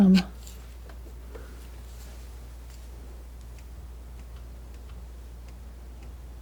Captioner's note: ticking